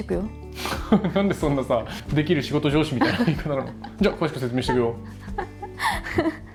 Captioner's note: laughs